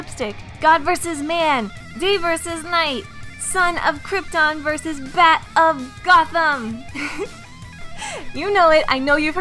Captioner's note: laughs